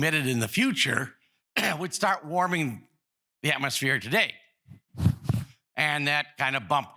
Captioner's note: cough